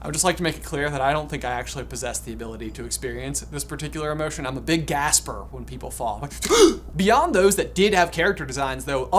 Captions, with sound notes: - I would just like to make it clear that I don't think I actually possess the ability to experience this particular emotion. I'm a big gasper when people fall, like (gasps). Beyond those that did have character designs though,